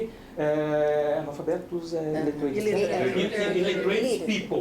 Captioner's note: speaking portuguese